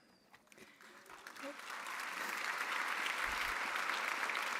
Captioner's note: audience applauding